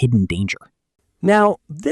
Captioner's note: pause